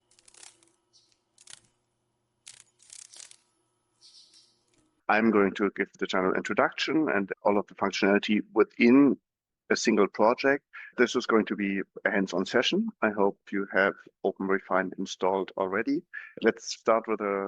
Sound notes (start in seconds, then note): 2.0 sounds of a dragon fly